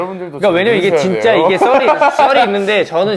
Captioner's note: giggle